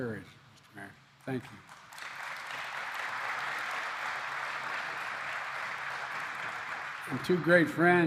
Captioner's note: applause